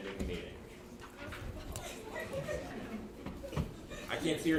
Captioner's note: attendees laughing softly